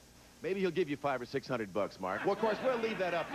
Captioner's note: audience laughing